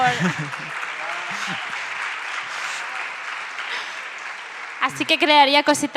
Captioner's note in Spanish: Aplausos